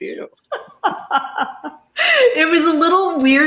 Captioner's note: laughs